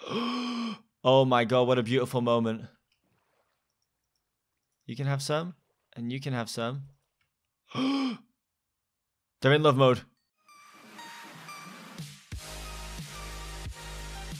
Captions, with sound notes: *deep inhale* Oh my god, What a beautiful moment You can have some... and you can have some *gasps* They're in love mode